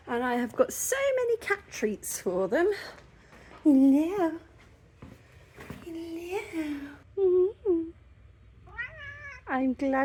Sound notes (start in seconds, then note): 8.6 meow